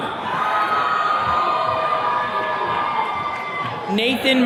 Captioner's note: attendees cheering